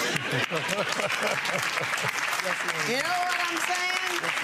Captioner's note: audience laughing drowns out